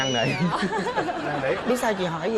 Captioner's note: laughing